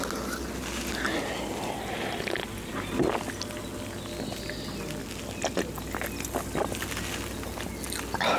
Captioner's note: slurping and gulping noises